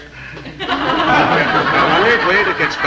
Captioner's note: audience laughing